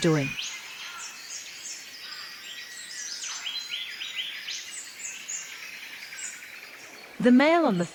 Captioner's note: birds sounds and chirps